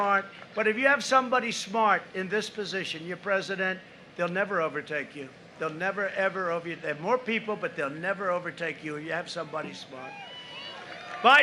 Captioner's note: applause